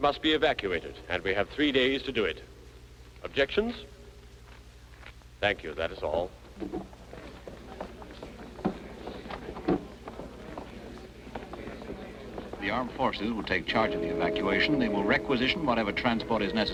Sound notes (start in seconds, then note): 8.0 crowd murmuring